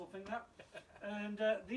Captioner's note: chuckles